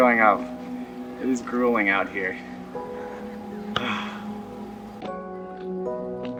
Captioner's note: sighs